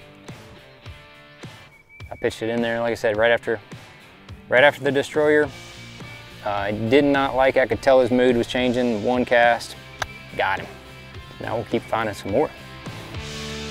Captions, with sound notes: I pitched it in there, like I said, right after the D Stroyer. Did not like, I could tell his mood was changing and one cast, (clicks tongue) got him. Now we'll keep finding some more.